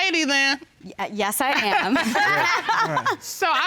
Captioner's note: all laugh